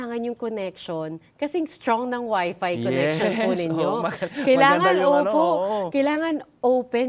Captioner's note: laughs